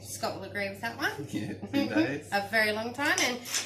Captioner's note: giggles